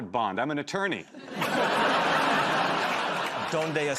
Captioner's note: laughter